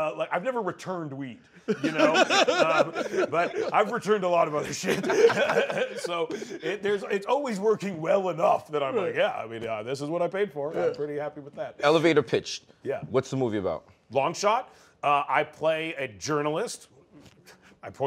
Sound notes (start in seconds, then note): 1.6 laughter